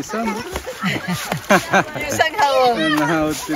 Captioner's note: laughs